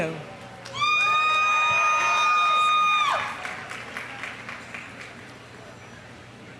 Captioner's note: audience applauding; audience cheering